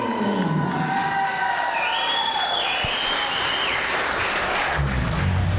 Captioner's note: crowd cheers and applauds